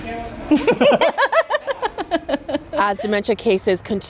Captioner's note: both laughing